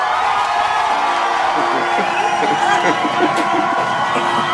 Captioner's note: laughing